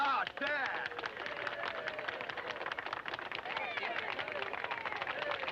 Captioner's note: crowd clapping